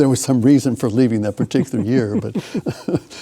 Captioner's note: chuckles